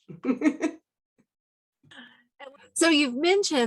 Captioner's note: chuckles